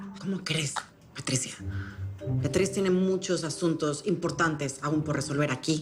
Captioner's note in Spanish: none